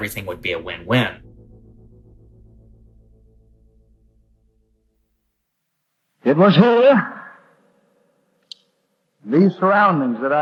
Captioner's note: soundbite of archived recording